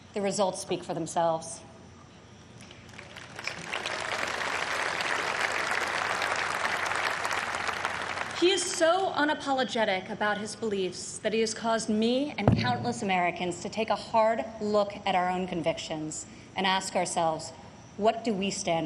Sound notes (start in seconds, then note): 5.9 applause